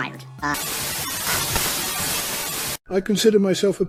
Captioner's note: static